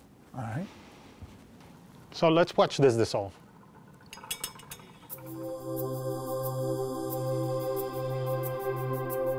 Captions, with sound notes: - All right. - So let's watch this dissolve. (glass clinking)